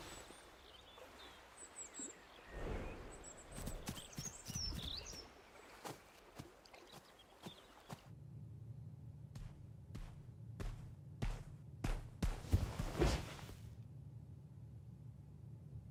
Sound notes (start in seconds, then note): 9.3 footsteps approaching